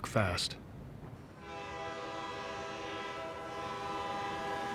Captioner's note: train whistle blowing